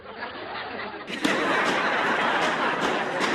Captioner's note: laughter